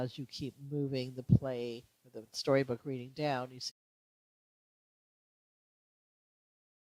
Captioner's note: audio cuts out